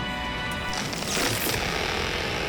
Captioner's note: electrical hissing